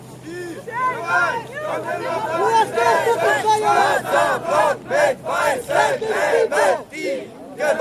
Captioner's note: people yelling in German